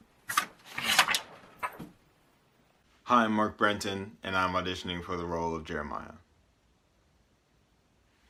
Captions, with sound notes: [paper noises] Hi, I'm Mark Brenton, and I'm auditioning for the role of Jeremiah.